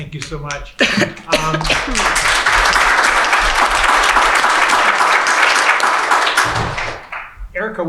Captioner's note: applause